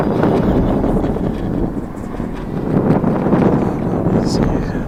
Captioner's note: laugh